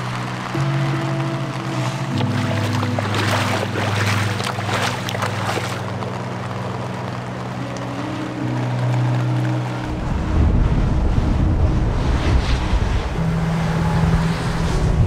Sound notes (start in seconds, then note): 12.0 gusts of wind